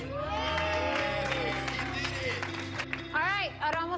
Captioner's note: applause